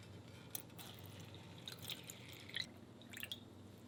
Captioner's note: water pours